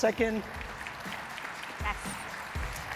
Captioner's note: audience clapping